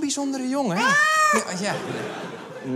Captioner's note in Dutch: kat schreeuwt